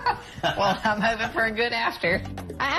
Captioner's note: laughter